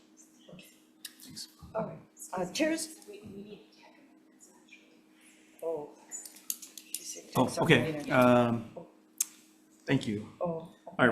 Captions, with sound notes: - Chairs. (indistinct conversation) - Oh, okay. Thank you.